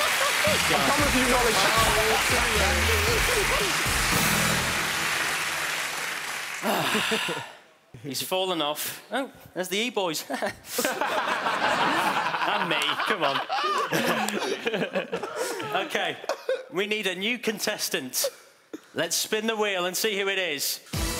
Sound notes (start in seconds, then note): 0.5 dramatic music; 6.9 loud groaning; 10.7 laughing